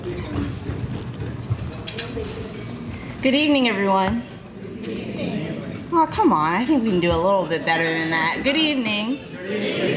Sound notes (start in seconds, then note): 4.4 crowd greets; 9.4 crowd greets louder